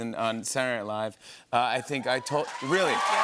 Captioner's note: cheers and applause